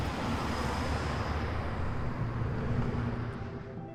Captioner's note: traffic zooming; bright music